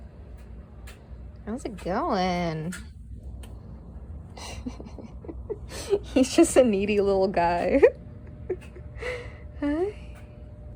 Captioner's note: laugh